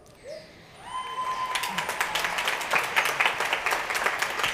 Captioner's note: crowd cheering